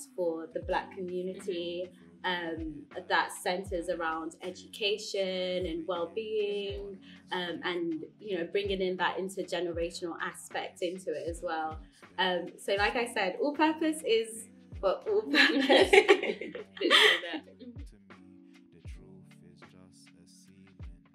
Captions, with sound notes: for the Black community, that centres around education and wellbeing and, you know, bringing in that intergenerational aspect into it as well. So like I said, All Purpose is, for all purposes. (laughter)